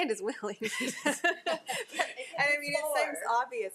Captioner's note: trustees laughing